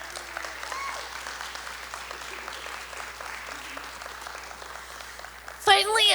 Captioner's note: audience applauding and cheering